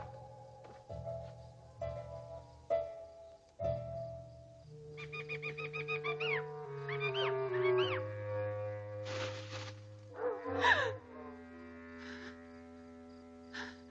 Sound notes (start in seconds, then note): 1.0 dramatic music; 9.0 leaves rustling; 10.8 Priscilla gasps